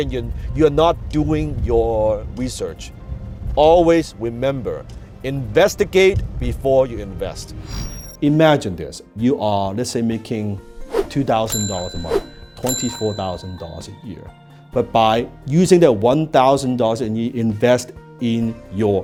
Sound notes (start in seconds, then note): 7.6 air whooshing; 10.7 air whoosh; 11.4 cash register dings